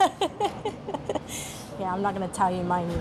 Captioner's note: chuckles